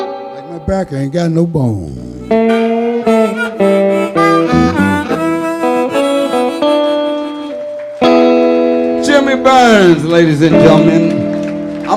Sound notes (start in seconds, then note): 7.2 audience applauding